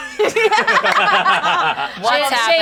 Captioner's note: group laughing